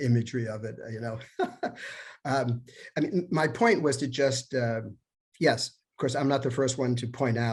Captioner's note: laughter